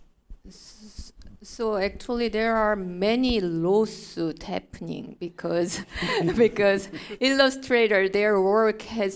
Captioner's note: chuckle